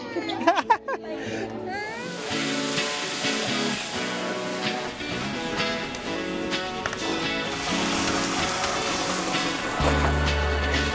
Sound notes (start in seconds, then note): 0.0 child laughing; 0.0 laughing; 1.8 upbeat music; 1.9 food sizzling